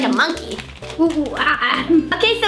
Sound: monkey singing

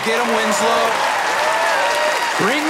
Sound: audience cheering

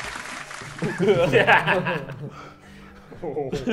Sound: laughs

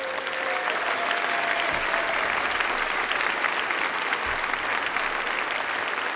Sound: applause

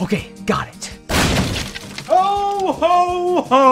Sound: crashing

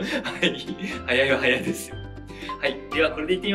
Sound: laughs

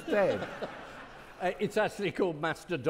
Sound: audience laughing

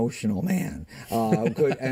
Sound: laughter

